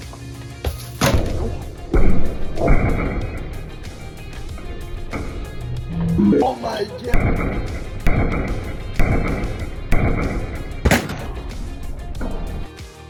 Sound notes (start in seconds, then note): 1.0 bang; 7.0 repeated BANGS; 11.0 crack